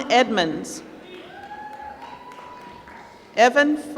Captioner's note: applause